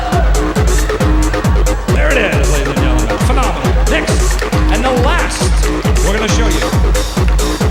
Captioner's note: speaks Chinese